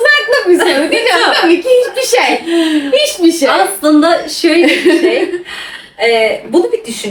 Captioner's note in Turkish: kahkaha